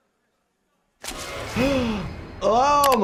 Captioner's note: Jordan gasping; frightening music